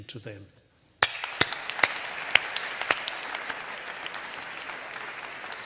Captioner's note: audience applauding